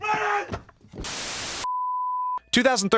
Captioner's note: test pattern beeps; static crackles